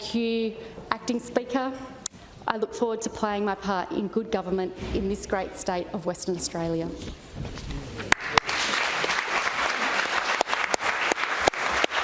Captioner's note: applause